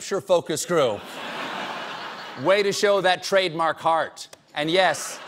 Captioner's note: laughter